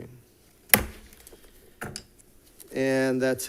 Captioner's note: gavel bangs